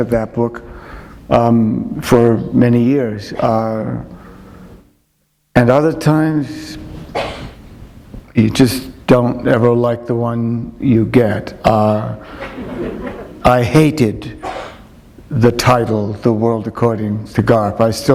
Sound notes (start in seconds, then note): 12.2 chuckle